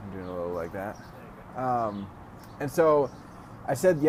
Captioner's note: voiceover